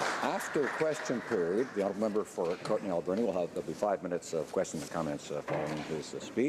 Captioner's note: some Applause